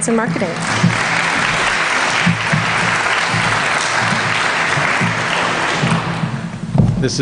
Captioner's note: applause